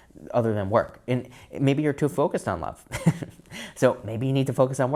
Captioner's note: chuckles